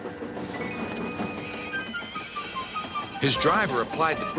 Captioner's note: brakes screeching